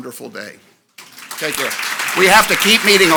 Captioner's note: audience applauds